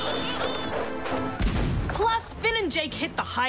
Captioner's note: cannon blast